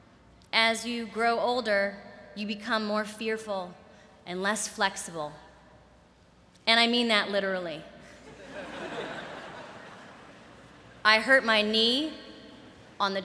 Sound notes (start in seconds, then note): 8.2 laughter